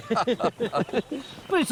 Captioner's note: laughing